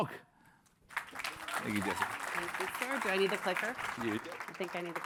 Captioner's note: applause